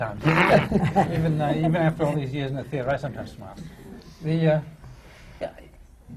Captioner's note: laughter